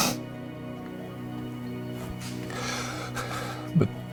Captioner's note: Jim crying